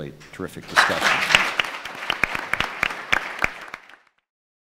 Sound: applauding

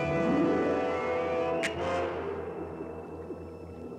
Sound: sharp click

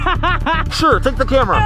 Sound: laughing

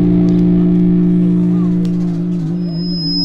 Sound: none

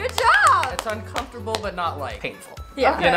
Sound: clapping

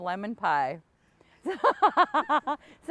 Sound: both laugh

